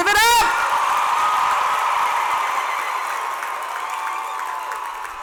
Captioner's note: cheers and applause